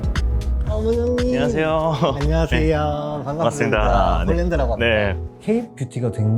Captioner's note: speaking in Korean